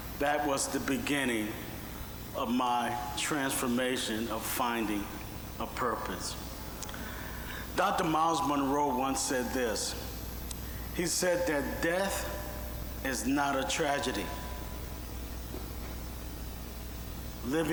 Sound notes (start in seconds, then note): none